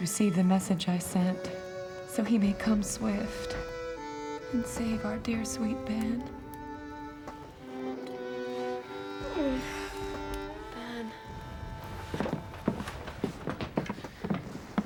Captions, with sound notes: receive the message I sent so he may come swift and save our dear, sweet Ben. (whimper) Ben.